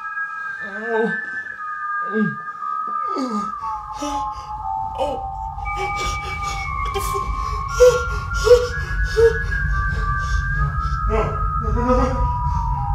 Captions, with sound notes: Ow. (Antoine whimpering) (tense foreboding music) What the fuck? (gasping)